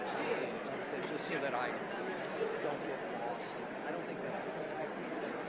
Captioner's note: indistinguishable chatter